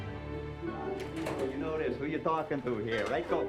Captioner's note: door clicks open